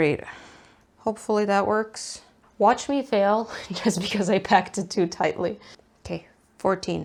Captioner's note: laughs